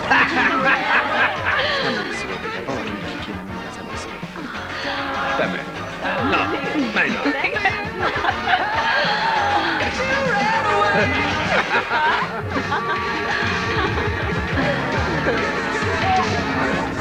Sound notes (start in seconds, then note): 2.3 indistinct chatter